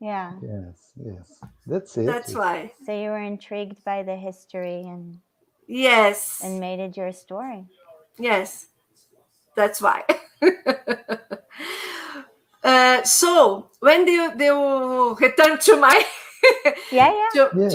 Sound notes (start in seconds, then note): 10.1 laughter